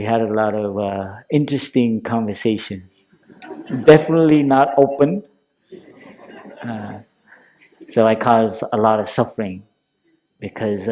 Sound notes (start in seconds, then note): 5.7 laughter